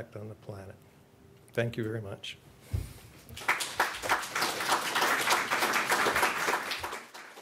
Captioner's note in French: Applaudissements